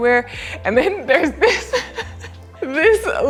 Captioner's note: laughs